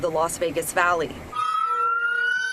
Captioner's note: rushing water